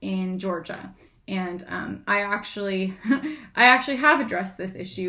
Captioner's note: laughs